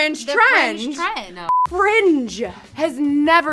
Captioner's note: beep